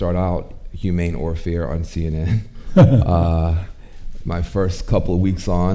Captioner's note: chuckles